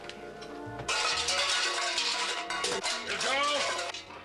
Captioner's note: clattering